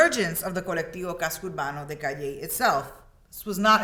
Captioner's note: speaks in Spanish